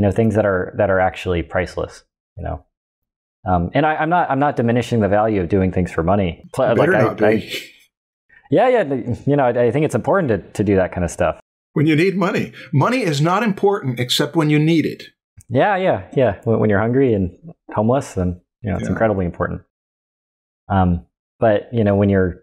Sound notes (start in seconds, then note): 6.8 chuckles